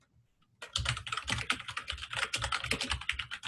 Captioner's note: typing